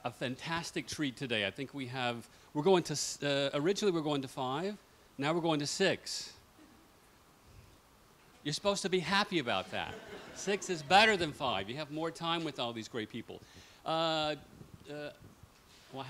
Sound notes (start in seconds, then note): 9.7 laughter